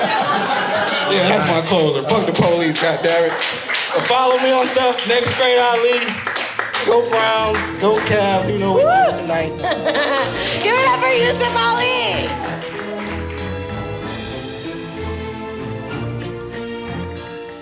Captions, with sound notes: (audience laughing) Yeah, that's my closer. (audience applauding) Fuck the police. God damn it. But follow me on stuff, nextgreatAli, go Browns, go Cavs. You know what we doing tonight. - Give it up for Yousef Ali. (spooky music)